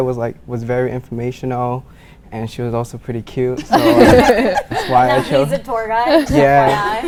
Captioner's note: laughing